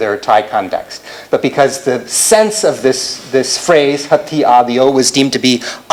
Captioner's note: non-english speech